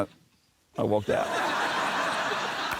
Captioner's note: laughter